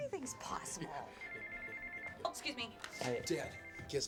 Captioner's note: cell phone ringing